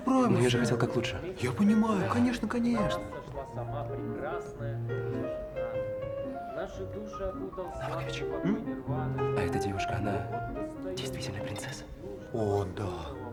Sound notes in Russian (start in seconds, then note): 4.1 шумы застолья